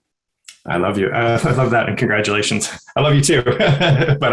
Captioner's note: chuckles; laughs